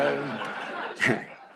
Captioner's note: laughter